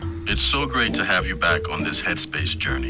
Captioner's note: head Space Voice